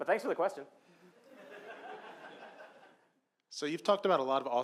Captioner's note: laughing